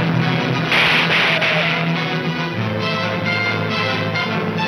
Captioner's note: gunshots banging